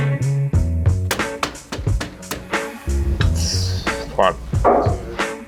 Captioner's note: metal banging